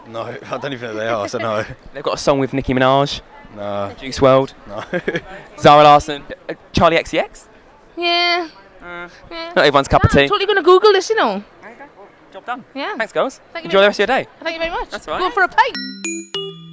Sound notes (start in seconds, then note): 5.3 laughs